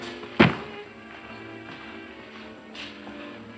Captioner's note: thumps